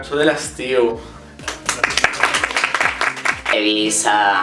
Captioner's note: applause